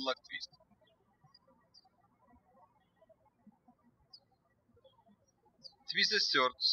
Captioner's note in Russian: птички щебечут